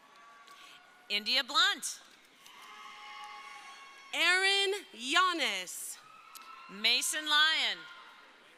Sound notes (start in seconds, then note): 2.4 crowd cheering; 5.7 crowd cheering